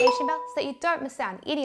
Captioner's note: bell rings